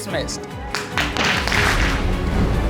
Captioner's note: applause